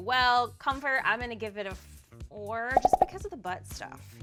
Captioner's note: popping